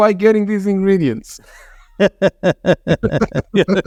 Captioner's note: laughs